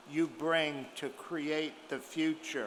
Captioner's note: none